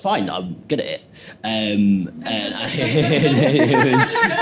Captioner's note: laughs